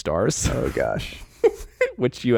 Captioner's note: all chuckling